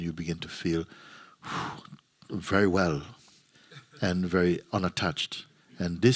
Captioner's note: exhales